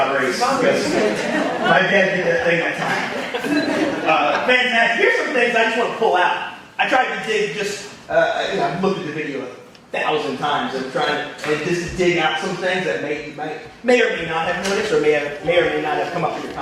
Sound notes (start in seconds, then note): 2.6 audience laughing